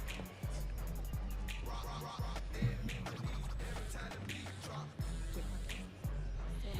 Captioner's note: audience applauding